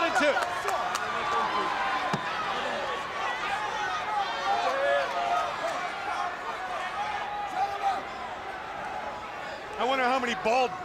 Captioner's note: crowd chatter